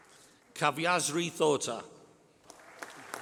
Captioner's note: applause